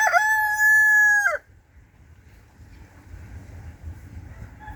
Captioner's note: sound of a crowing rooster